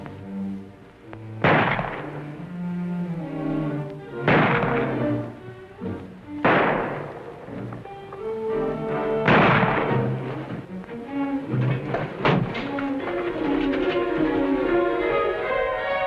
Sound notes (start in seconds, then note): 1.3 gunshots; 12.7 tense music